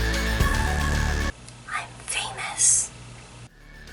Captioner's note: whispered